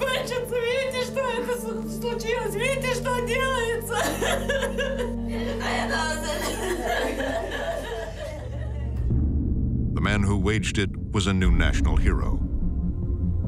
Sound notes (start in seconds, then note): 3.7 people crying